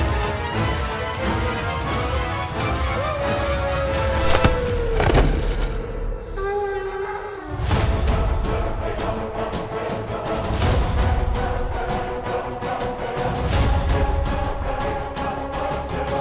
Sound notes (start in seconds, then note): 1.9 thud; 5.2 dramatic music playing